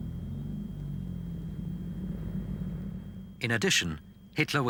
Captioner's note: engine rumbling